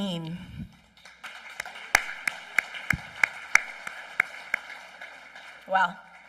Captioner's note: applause